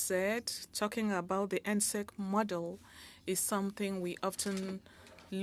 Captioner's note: speaking French